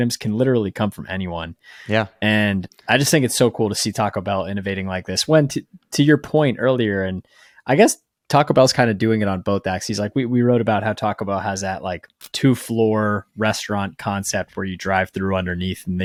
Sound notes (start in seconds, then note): 12.2 screen clicking